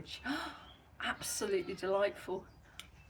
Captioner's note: gasp